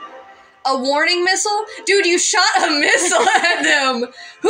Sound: both Laugh

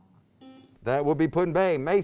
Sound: buzzer beeps

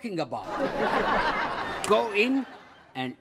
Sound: audience laughs

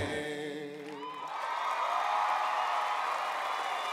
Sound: audience cheering

